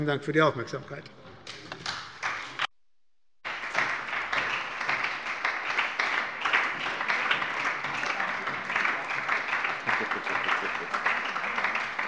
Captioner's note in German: Beifall bei der SPD